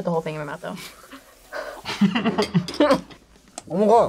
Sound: both laugh

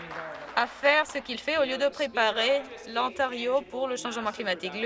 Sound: some Applause

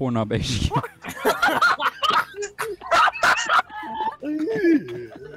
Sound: laughter

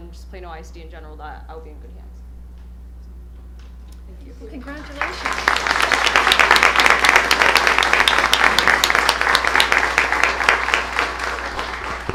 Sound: applause

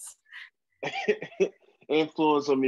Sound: laughs

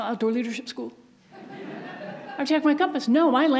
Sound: audience laughs

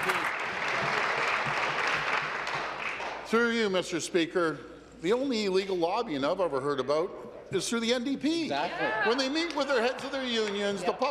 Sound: applause

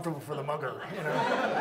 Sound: audience laughs

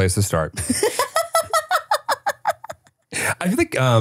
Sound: laughing

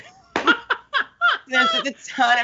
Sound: Brennan laugh

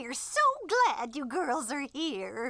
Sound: scoffs

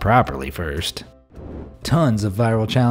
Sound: air whooshing

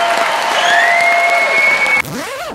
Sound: whistling even

